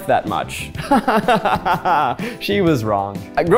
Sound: laughs

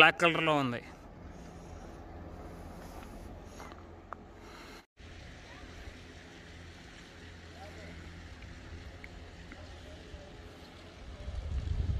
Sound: water flowing

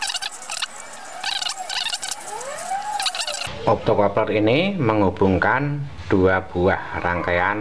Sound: clap

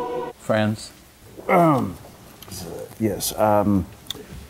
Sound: clears his throat

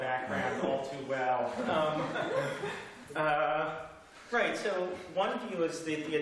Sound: laughter

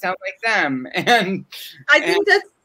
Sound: laughs

